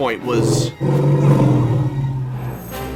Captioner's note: growls